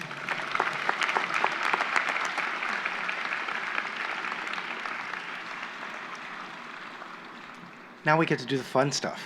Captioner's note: applause